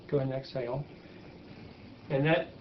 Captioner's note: person breathing loudly